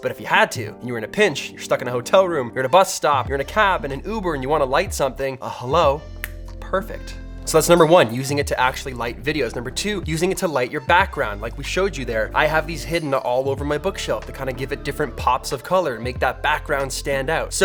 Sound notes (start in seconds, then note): 6.2 snapping